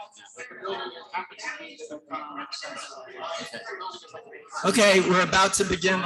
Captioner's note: people chattering indistinctly